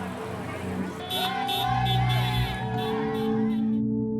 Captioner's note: car horns